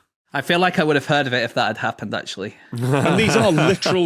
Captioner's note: chuckles